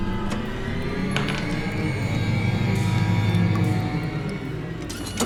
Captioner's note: robot whirring; bullet clatters; ominous music